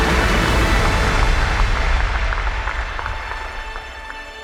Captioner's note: cheering